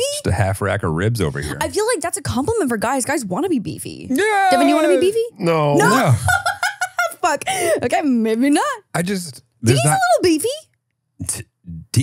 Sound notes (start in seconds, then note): 5.5 laughs